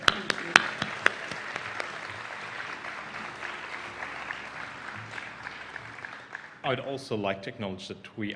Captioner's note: applause